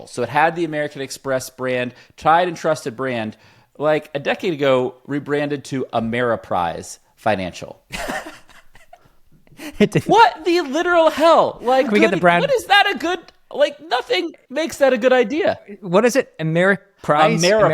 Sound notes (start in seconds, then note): 7.9 laughs